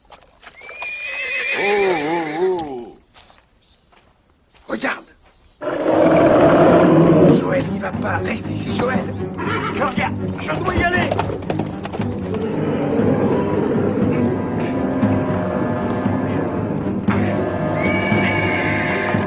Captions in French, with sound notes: [Hennissement] Oh, oh, oh ! -Regarde ! [Rugissement] Joël, n'y va pas ! Reste ici ! -Je reviens ! Je dois y aller ! [Musique à suspense] [Hennissement]